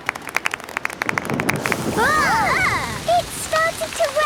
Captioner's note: thunder; exclamations